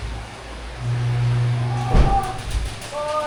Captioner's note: grunting